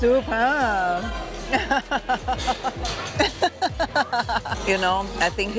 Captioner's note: laughs